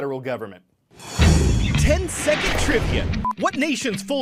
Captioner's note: voice-over